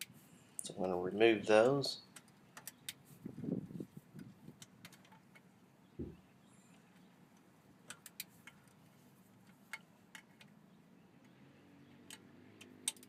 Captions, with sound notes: So I'm gonna remove those. (bolt loosening)